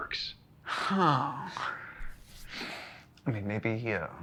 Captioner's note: Kent sighing